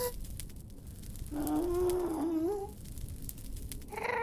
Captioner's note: Ghast moans in thought; Ghast grumbles in consideration